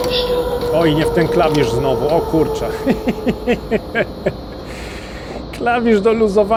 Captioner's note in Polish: śmiech